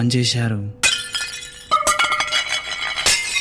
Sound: falling Plates crashing

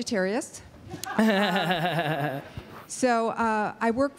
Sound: laughter

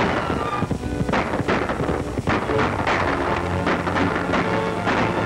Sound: gun shots

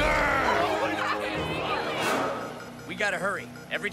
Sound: sounds of panic

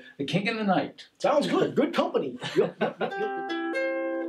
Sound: laughing; ukulele strumming

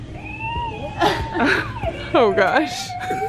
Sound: laughing

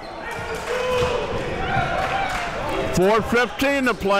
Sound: crowd cheering

